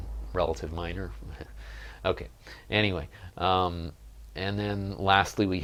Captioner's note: chuckle